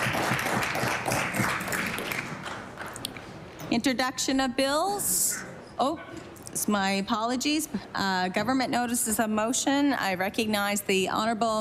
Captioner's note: applause